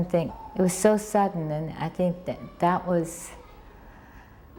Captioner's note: sighing